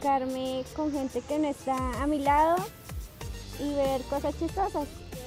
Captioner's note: none